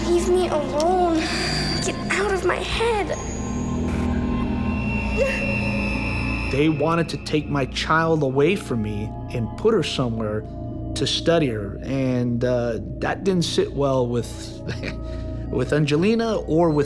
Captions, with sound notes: - Leave me alone! Get out of my head! (straining) - They wanted to take my child away from me and put her somewhere to study her, and that didn't sit well with, (chuckling) with Angelina or with me.